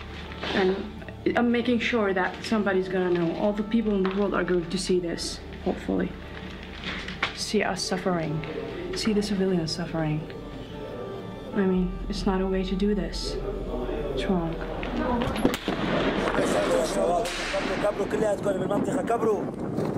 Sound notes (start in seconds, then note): 15.8 foreign language